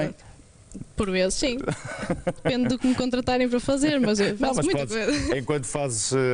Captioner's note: laughter